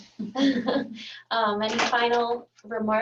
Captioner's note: laughing